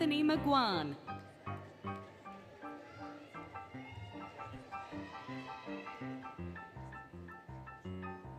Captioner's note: applause, Cheering, Music